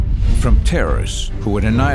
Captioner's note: bomb explodes